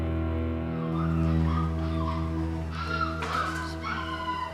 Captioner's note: dogs squealing